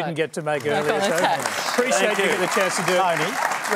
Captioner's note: applause